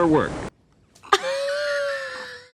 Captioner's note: laughs